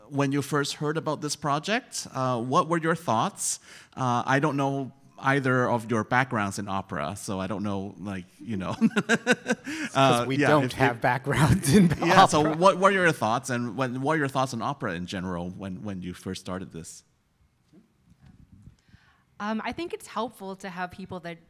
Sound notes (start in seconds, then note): 8.6 laughs